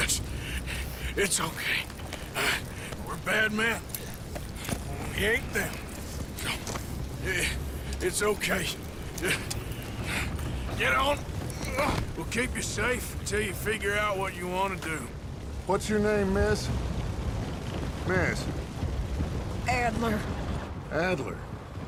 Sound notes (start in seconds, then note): 11.6 sound of effort